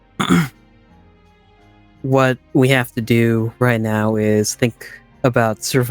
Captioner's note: clears throat